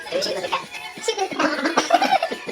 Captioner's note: laughs